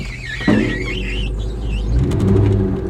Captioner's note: tires squealing; spring Clunking